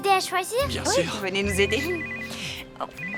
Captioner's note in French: sonnerie de téléphone